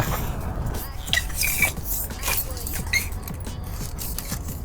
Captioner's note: pole squeaking